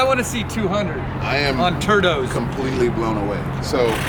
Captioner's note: car engine running